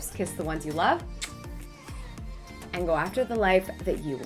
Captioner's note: lips smack